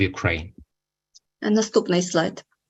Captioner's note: foreign language